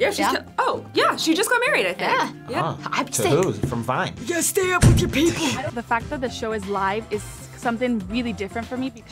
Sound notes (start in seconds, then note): 4.5 raspy